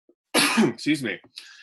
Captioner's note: coughs